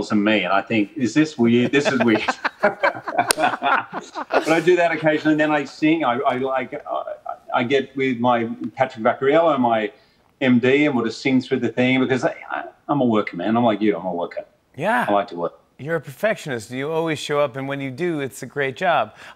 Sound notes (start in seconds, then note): 1.4 both laugh